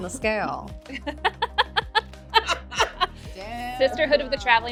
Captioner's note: laughing